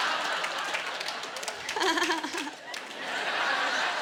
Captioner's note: laughter; laughing mockingly; laughter